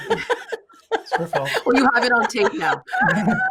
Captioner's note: laughing